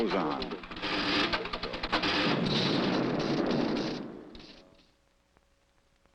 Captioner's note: machine buzzing and clacking